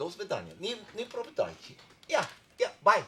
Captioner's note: speaking foreign language